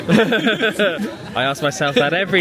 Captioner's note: both laughing